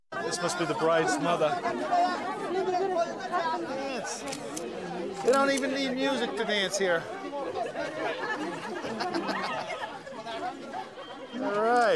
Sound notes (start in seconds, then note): 2.6 villagers chattering; 4.2 camera flashes; 8.0 villagers chattering